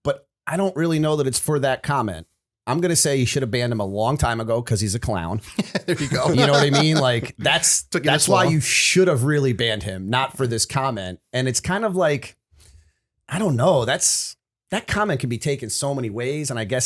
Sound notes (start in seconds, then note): 5.4 laughter